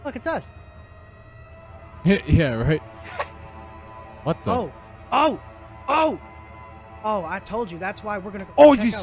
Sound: guilty Laughs

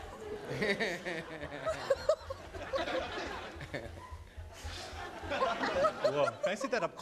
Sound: audience laughing

